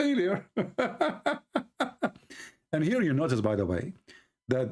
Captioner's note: Ketawa